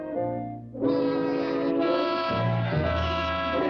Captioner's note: honking horn